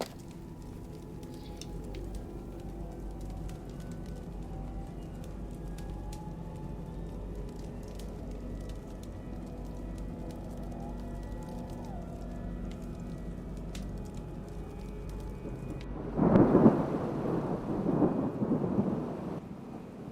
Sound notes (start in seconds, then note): 0.1 eerie music; 16.0 thunder booms